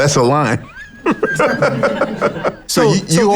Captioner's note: laughs